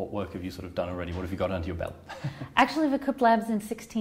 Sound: chuckles

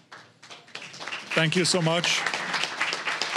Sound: applause

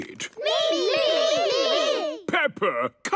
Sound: calling out in turn

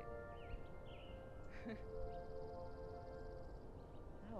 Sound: laughs

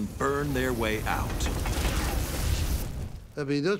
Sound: flamethrower roaring

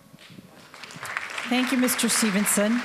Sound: applause

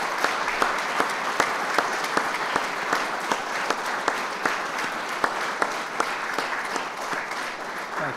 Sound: applause

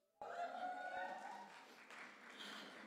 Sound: audience cheers and applause

